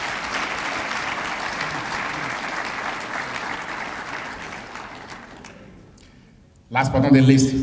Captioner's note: applause